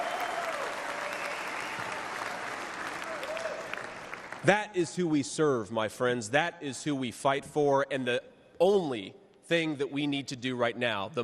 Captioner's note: cheers and applause